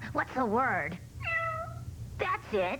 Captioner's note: cat meowing